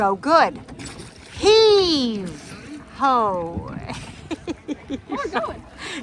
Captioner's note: laughs